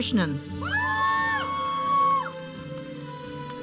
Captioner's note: audience cheering; processional music